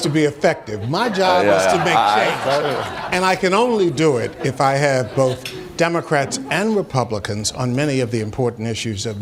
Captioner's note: laughter